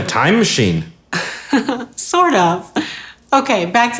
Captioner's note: laughs